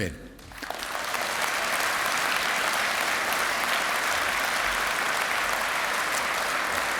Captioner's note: applause